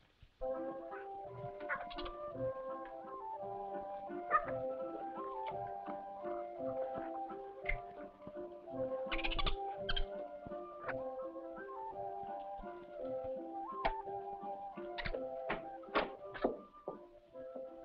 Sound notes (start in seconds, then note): 0.1 gentle music; 4.1 monkey chittering; 14.4 gentle music